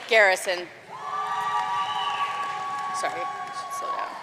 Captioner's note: audience cheering and applauding